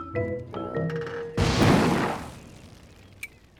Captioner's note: jaunty music; plane exploding; acorns falling; angry gibberish